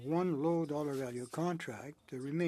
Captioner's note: speaking in French